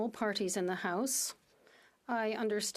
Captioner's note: speaking French